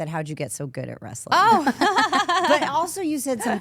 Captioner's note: AJ laughs